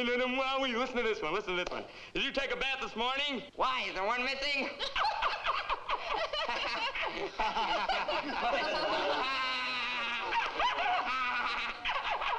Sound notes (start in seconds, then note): 4.7 Sammy and Nona laughing; 7.2 all laughing